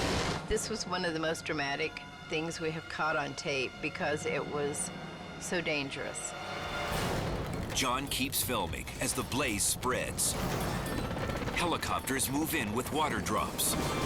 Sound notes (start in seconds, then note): 10.5 helicopter whirring